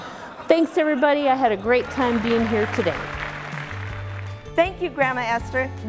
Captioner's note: clapping